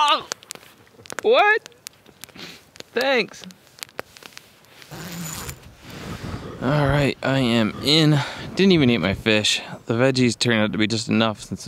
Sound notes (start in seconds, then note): 4.8 zipper drags